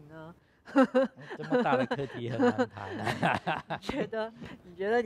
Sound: laughs

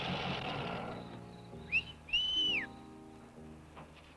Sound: Chase whistles; soft romantic music

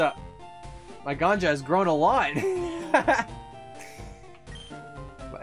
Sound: laughing

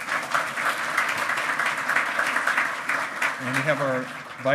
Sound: loud clapping

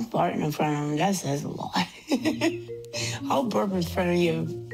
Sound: laughs

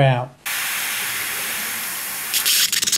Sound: radiator hissing; radiator spluttering

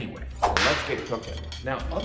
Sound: whip cracking

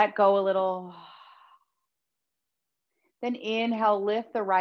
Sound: exhaling deeply

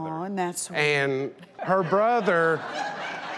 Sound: crowd laughs

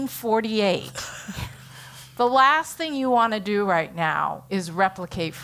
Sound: laugh

